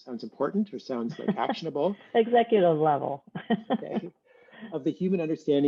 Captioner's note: laughs